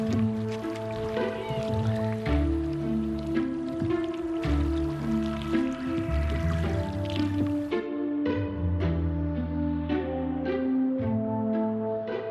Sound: bird screeches

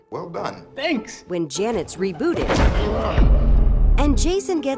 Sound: grunts

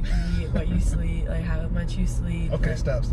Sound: laugh

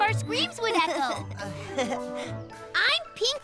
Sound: chuckles

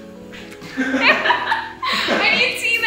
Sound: students laughing

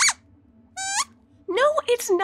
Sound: squeaks squeaks

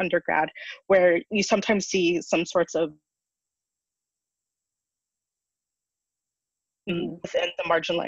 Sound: audio cuts out briefly

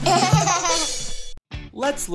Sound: laughs

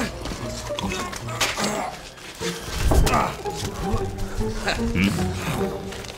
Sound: Zack moaning painfully

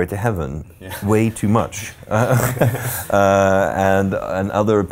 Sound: laughing

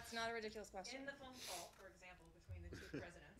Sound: laughter

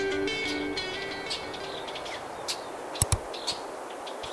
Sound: birds chirping

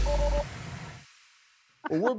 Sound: beeps

